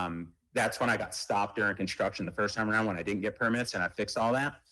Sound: ~audio distortion~

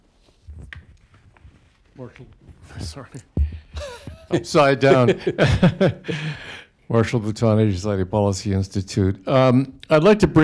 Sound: laughs; laughter

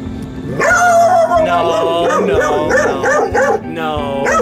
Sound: barking

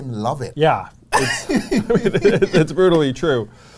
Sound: laughs

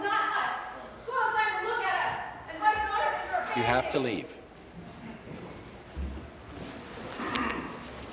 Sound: woman shouting

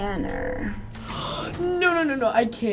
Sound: gasps

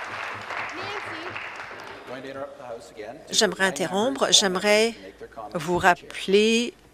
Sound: applause

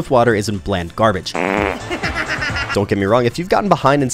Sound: farts; cackling

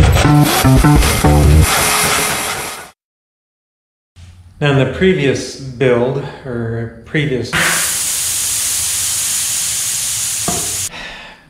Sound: loud noise as a tire pops and loses air

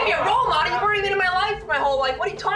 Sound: laughing

